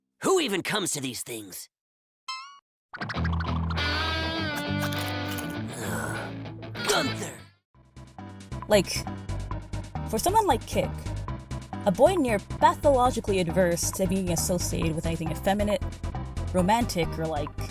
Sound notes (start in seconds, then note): 3.0 annoyed sigh